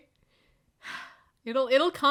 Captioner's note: sigh